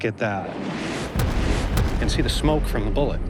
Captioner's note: bullet whooshes